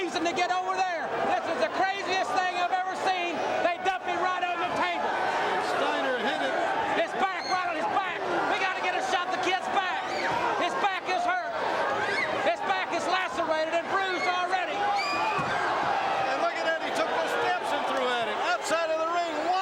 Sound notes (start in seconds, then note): 15.7 crowd cheering